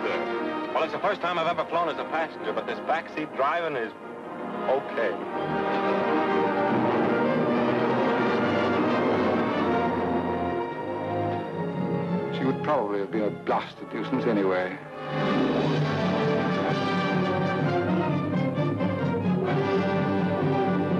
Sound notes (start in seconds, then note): 6.4 plane engines roaring; 6.4 triumphant music